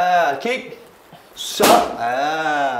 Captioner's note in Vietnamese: Pow